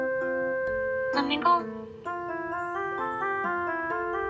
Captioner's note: voice message